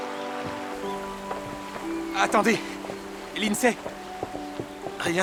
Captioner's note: birds chirping